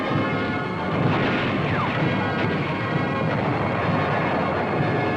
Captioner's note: artillery blasting